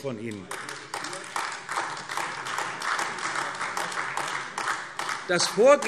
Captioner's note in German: Beifall AfD